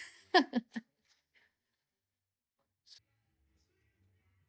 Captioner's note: laughter